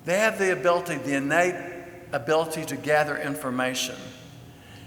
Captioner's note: none